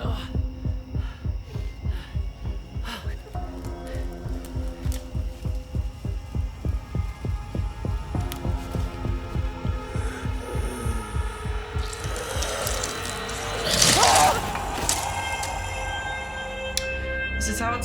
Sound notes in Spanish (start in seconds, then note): 3.2 Jonathan respira con dificultad; 6.8 música de suspenso; 11.0 gruñido de cadáver; 13.6 Jonathan grita